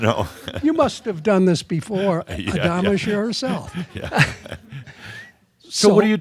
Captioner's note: chuckles; they chuckle